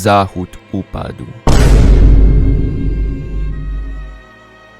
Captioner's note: boom